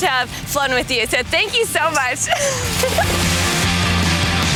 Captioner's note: laughing; lively music